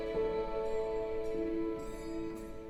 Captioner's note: bell chimes